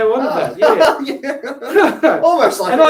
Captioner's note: laughs